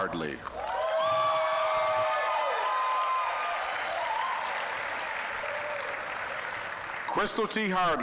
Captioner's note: applause, cheering